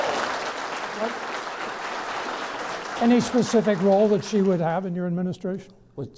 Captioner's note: clapping